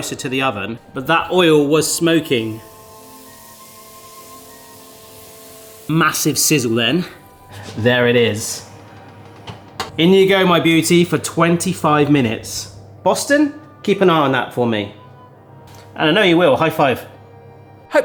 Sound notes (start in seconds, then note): 2.6 batter sizzling